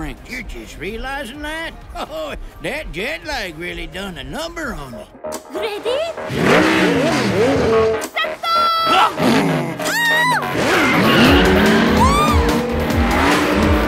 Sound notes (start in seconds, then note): 1.9 laughs; 6.1 engines rumbling; 12.0 squeals excitedly